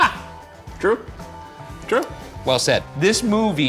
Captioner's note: laughing